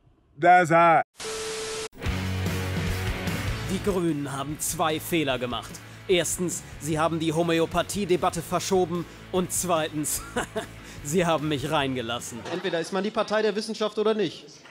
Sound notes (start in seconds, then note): 10.2 haha